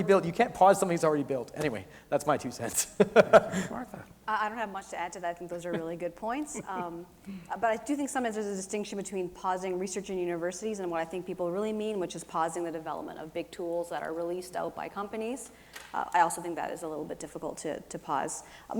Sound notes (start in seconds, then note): 2.8 laughs